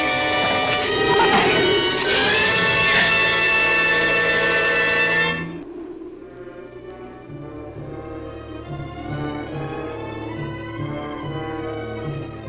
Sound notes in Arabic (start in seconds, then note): 0.2 ثرثرة الزبابة; 5.2 عواء ريح مكتوم; 5.2 موسيقى أوركسترالية مشوقة